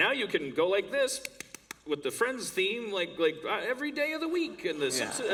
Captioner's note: clapping sounds